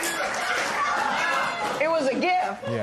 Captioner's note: laughter continues